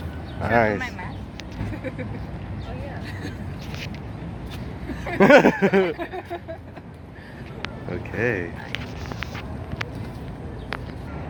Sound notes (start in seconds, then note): 4.8 general laughter; 4.9 laughs